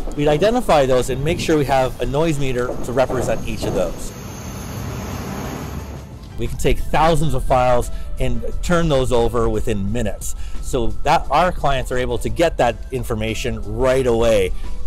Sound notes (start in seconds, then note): 4.2 construction whirring